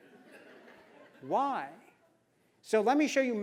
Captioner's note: laugh